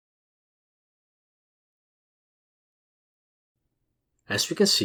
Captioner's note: pause